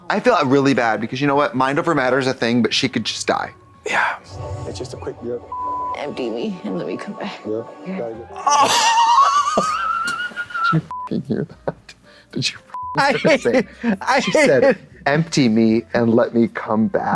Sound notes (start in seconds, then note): 4.3 beep; 8.4 blonde Women whoop; 11.0 beep